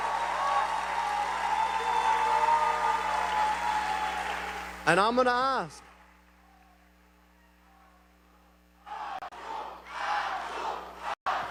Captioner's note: cheering